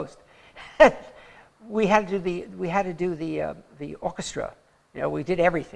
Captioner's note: laughter